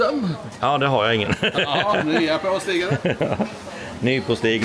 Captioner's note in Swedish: skratt